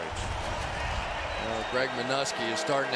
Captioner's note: pa announcement